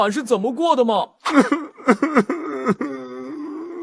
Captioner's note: sobbing noises